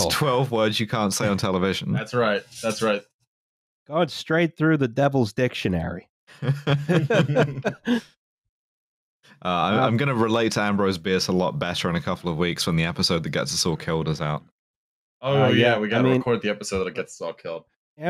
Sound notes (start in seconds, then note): 6.4 laughter